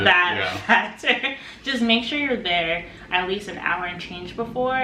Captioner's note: laughs